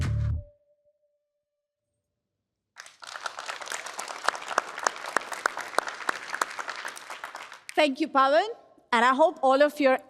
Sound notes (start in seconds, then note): 2.7 applause